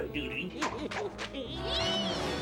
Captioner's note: grinch laughing